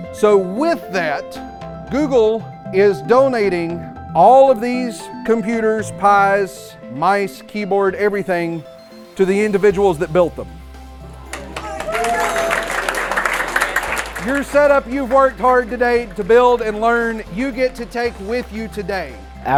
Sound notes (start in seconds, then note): 11.0 clapping and cheers